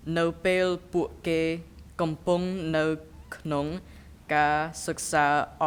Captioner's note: speaking in a foreign language